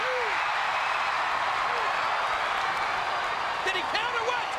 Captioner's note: crowd cheers